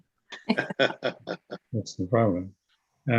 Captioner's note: attendees laughing